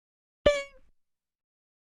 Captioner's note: doink!